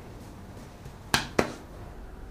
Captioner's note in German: Klatschgeräusch